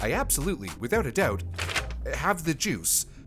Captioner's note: paper sfx